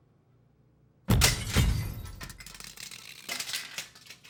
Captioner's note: dramatic music; plastic crashing